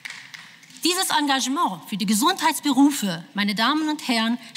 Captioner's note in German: Beifall